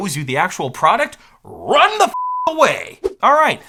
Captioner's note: beep